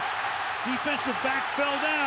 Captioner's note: cheering